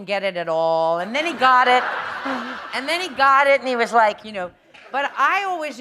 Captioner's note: laughter